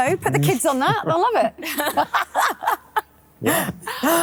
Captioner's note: all laugh